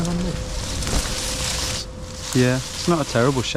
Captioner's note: leaves rustling